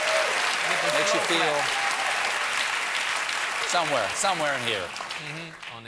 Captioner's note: cheers and applause